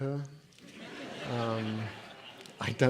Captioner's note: audience laughing